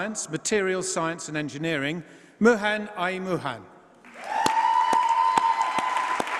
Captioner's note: applause